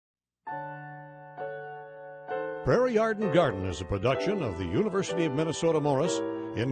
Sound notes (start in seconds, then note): 0.4 slow tempo piano music; 2.5 voiceover